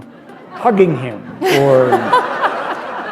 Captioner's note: laughter